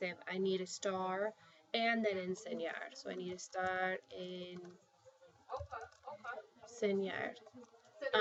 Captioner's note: spanish